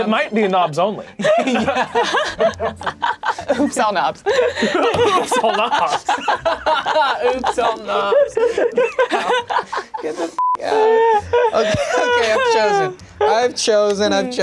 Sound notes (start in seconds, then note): 1.3 laughing; 4.9 all laughing; 10.4 beep